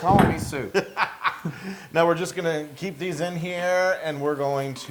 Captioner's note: laugh